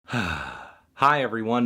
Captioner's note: sigh